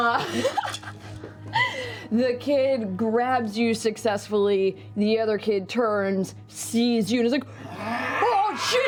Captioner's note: laughs